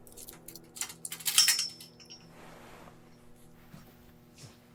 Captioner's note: metal clanking